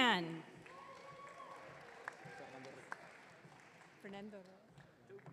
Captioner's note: audience cheering